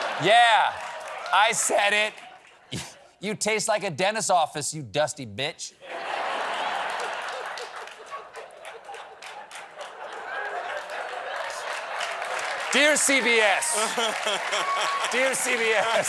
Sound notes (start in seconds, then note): 2.0 laughter; 10.1 applause; 10.1 laughter